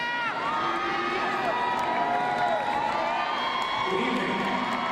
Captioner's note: crowd cheering